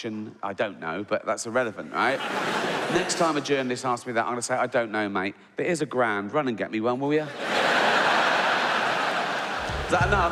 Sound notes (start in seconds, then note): 2.0 audience laughing; 7.3 audience laughing